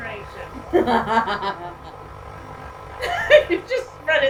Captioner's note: laughter